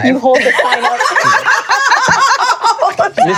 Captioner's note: laughing